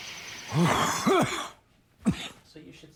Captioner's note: coughs